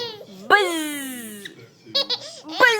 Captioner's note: laughing